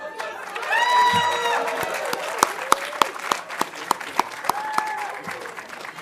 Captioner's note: audience cheering and applauding